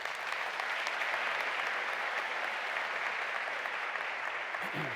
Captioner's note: audience applauding